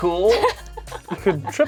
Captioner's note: laughs